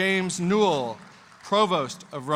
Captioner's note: applause